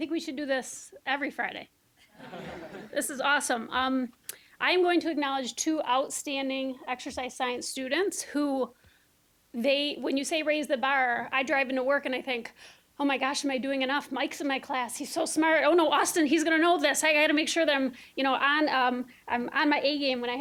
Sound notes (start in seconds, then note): 2.2 audience laughing